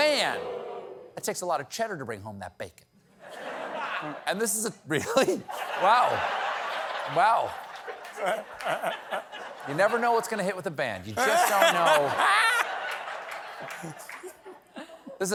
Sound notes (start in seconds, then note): 5.0 laughter